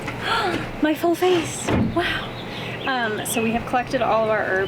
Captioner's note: gasps